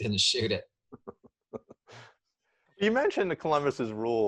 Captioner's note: laughs